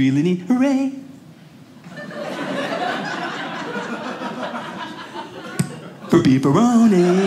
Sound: audience laughing

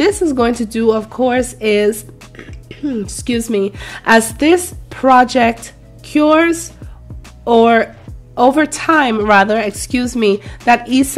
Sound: clears throat

